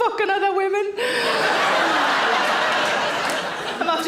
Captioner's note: audience laughing